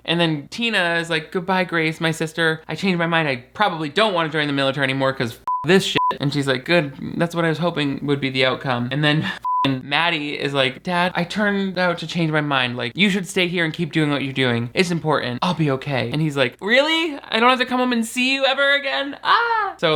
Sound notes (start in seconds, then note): 5.9 beep; 9.4 beep